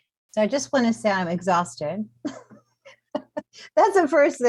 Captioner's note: chuckles